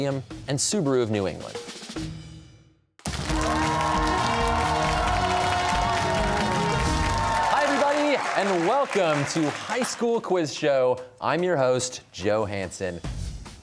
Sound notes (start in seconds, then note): 3.0 cheers and applause